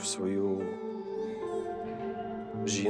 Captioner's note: baby crying